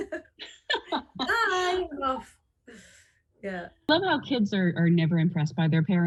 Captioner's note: laughter